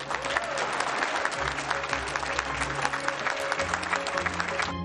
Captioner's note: everyone applauds; lively music